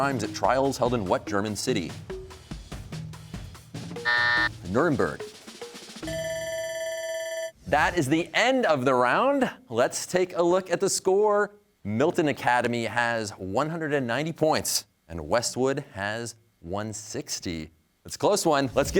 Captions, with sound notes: at trials held in what German city? (buzzer) Nuremberg. (bell ringing) That is the end of the round. Let's take a look at the score. Milton Academy has 190 points and Westwood has 160. It's a close one.